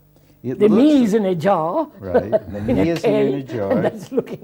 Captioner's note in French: rires